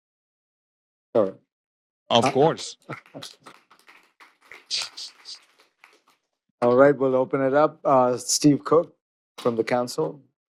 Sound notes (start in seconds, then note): 2.2 applause